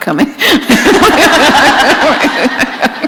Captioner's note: laughter